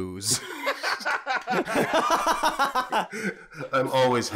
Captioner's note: laughter